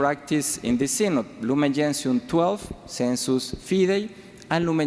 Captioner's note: speaks foreign language